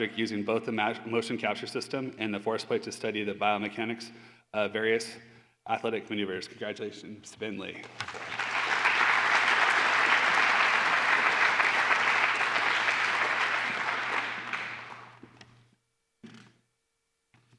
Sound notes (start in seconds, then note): 7.8 applause